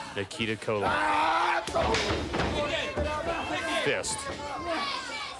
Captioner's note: crowd cheering